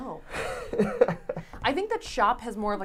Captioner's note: laughs